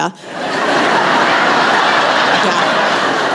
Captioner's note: laughter